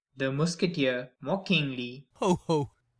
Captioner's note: mockingly